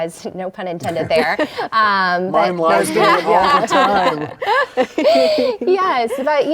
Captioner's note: group laughing